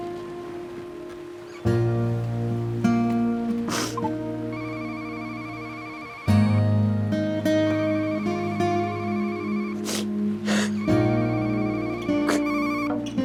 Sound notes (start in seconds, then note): 3.6 sniffling; 4.5 phone ringing